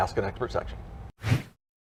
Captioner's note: swoosh